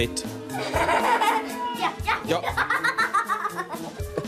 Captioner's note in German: Lachend